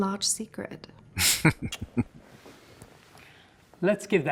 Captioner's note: chuckling